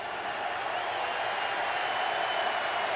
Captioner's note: crowd cheering